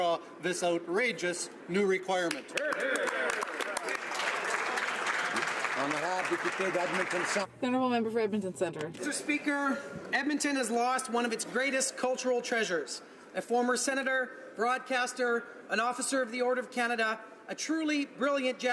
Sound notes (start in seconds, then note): 7.3 some Applause